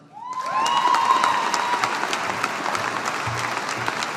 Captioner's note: audience applauding